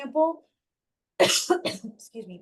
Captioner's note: coughs